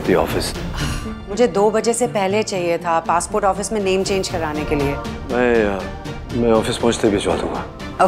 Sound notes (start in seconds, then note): 0.7 Ananya sighs